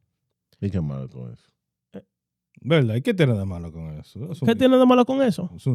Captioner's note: speaking In Foreign Language